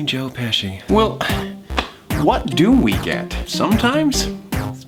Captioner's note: sighs